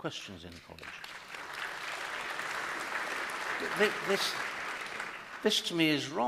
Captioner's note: applause